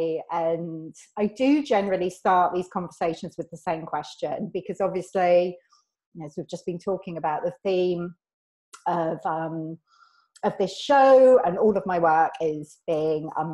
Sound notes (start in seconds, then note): none